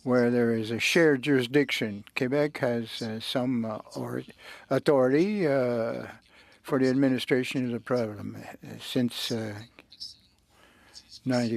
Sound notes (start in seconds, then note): 2.5 speaking French